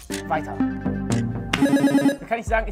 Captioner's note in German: Buzzer